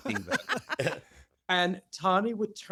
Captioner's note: laughter